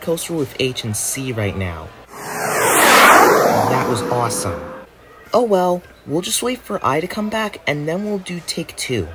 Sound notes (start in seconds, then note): 2.1 whoosh